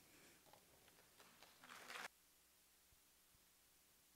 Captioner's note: applause